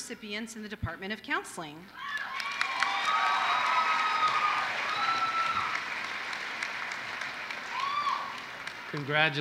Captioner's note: applause